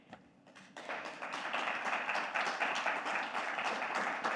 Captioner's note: audience applauding